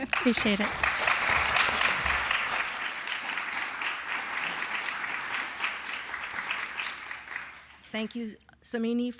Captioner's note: applause